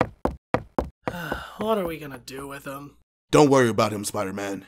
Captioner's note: sigh